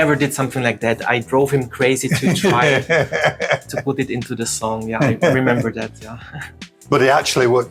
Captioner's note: laughter